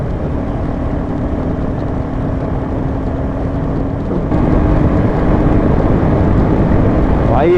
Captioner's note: wind noise